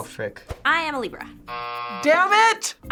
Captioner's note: buzzer rings